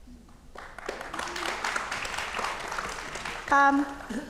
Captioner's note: audience clapping